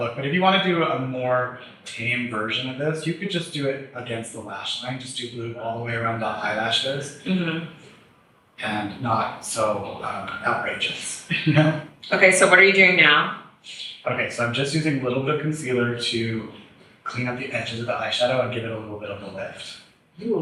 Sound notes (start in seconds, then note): 8.6 chuckles